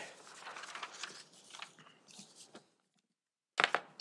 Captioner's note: papers ruffling